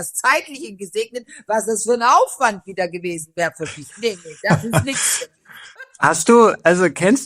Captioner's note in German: gelächter